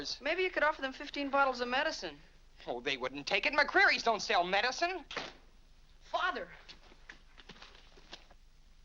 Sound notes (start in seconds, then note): 5.1 door closes